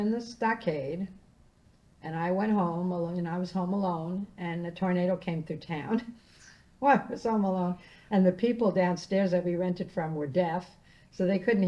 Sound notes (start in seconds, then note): 5.7 laughing